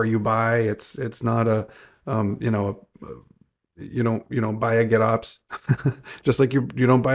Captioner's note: chuckles